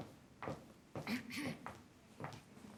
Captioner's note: clears throat